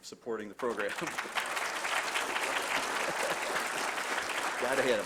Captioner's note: applause